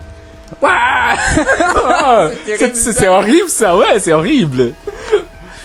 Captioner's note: screams